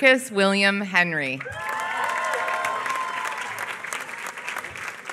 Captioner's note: applause